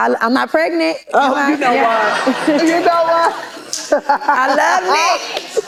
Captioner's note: laughter